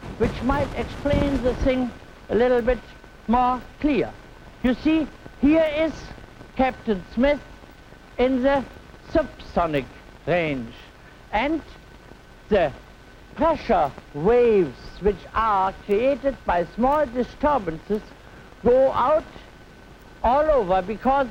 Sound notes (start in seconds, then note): none